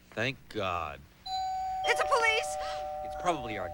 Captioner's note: doorbell rings